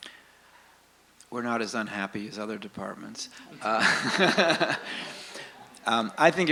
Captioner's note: laughs